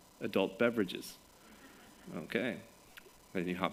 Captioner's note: laughter